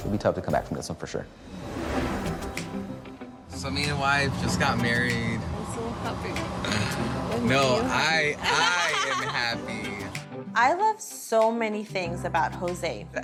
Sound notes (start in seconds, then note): 1.7 atmospheric music; 8.4 laughs